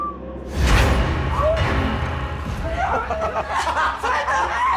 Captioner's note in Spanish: Gritos; Risas